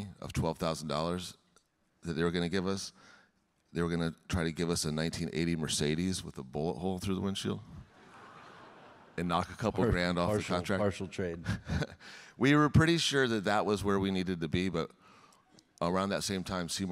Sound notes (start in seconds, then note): 7.9 audience laughing; 11.0 chuckles